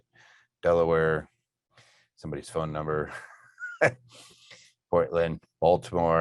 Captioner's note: laughing